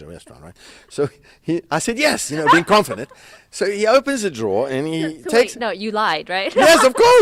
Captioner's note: haha!